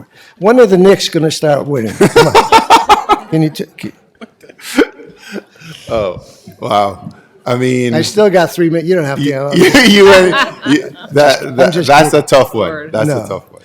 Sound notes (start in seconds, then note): 1.8 laughter